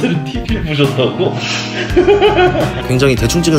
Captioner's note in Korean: 웃음소리